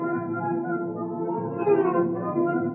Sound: none

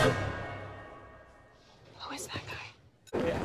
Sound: whispering

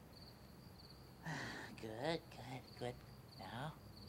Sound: sighs

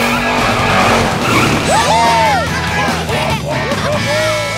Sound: cheering

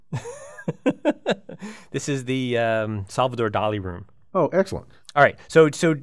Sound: laugh

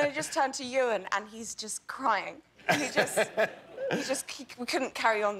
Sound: laughter

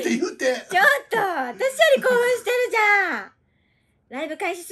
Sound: laughs

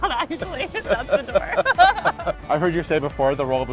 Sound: both laughing

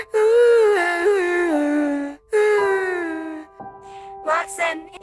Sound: cries

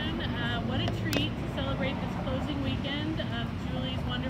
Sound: none

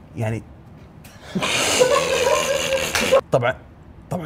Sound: laughter

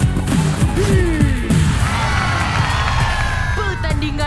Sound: kids cheering

